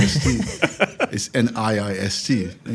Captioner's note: laugh